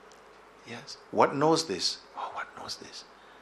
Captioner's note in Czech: none